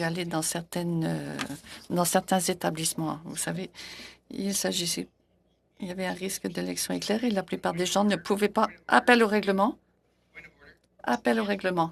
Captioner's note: speaking French